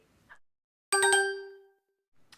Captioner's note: chime